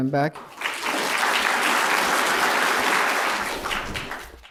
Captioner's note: applause